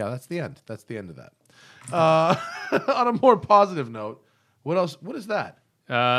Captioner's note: laughter